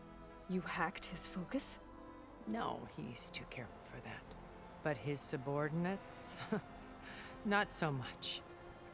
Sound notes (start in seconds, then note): 6.3 laugh